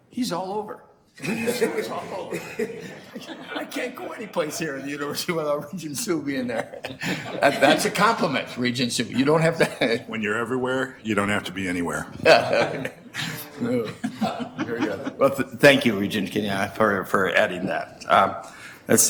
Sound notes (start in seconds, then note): 1.2 laughs; 7.0 laughs; 10.5 male Voice; 12.0 laughs